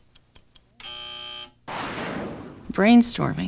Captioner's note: buzzer